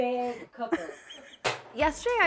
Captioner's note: laughing